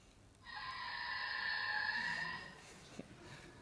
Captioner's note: tires screeching